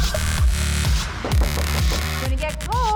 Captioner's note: knocking